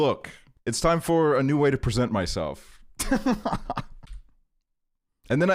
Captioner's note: laughs